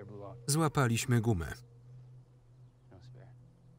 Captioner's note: tense music; birds singing